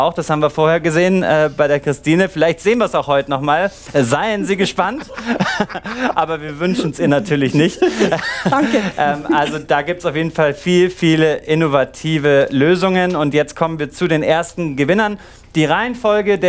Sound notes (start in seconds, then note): 8.6 laughing